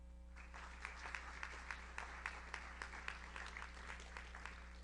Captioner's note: audience applauds